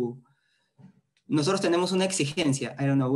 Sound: speaking spanish

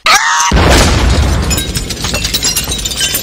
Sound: boom

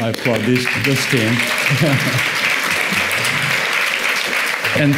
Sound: audience applauds

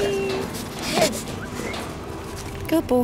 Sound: sniff; whistle

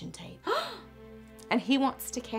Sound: gasp

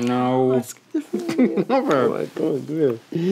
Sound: laughing

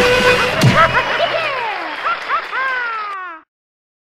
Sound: applause fades out

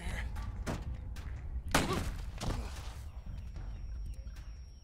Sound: gunshot; ears ringing

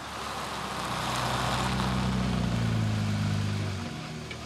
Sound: car engine running

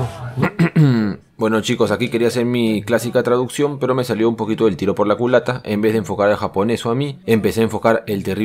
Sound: clears throath

